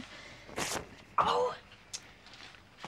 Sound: cloth tearing

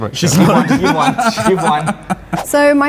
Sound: laughs

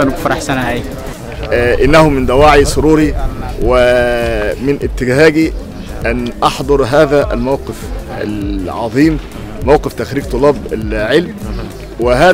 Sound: speaking Arabic

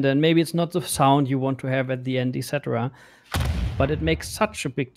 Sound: booming sound

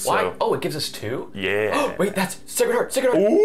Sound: gasp

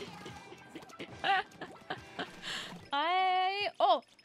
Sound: laughing

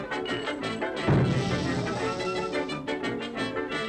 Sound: boom

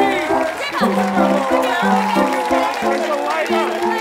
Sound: audience applause

